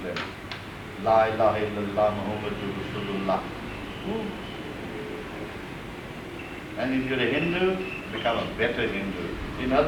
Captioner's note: speaks in another language